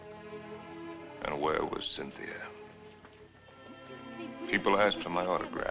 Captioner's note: chattering